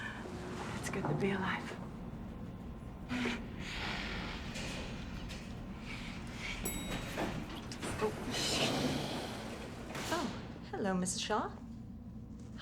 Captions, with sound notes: - It's good to be alive. (lips smooching) (elevator dings) (door whooshing) - Oh, hello, Mrs. Shaw.